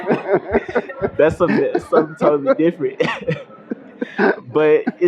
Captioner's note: laughter